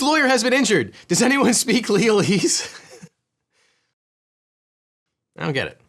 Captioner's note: laughs